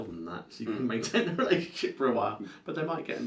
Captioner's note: laughs